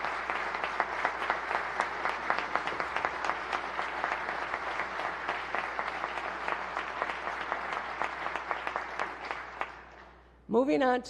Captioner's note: applause